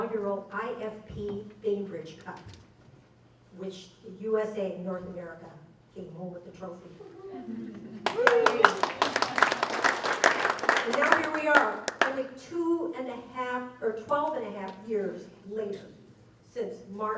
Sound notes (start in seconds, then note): 8.0 applause